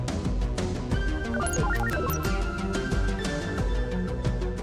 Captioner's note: computer beeps